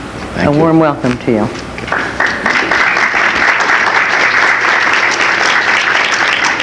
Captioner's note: audience applauds